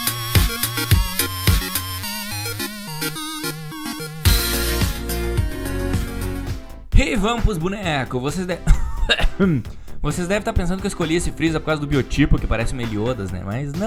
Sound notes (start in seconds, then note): 8.5 coughs